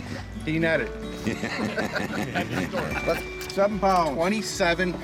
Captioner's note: fishermen laughing